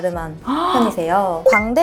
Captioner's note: gasp!!!